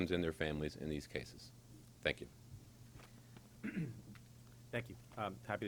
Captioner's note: clears throat